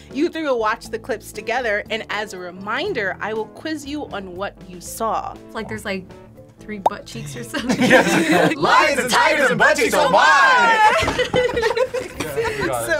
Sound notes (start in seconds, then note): 7.5 laughs; 12.3 laughs